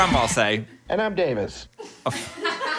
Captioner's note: recorded Voice; people laughing